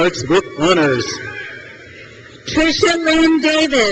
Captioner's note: crowd cheers